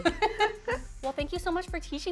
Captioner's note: laughter